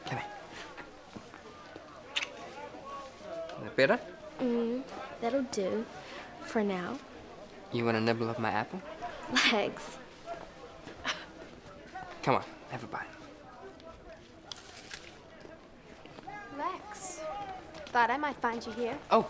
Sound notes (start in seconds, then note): 11.0 laughs